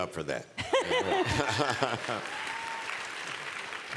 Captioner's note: applause